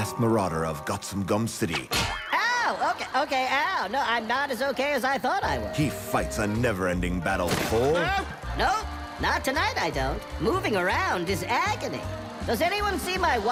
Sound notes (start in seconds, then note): 2.8 canned laughter